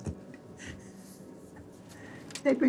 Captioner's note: chuckles